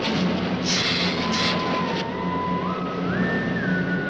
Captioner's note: lizard hissing